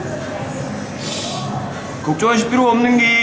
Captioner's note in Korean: 스읍